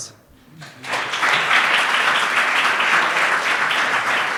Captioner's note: applause